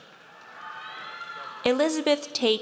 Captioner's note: audience cheers